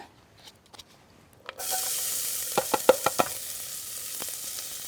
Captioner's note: onion sizzling